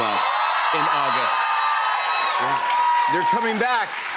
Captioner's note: cheers and applause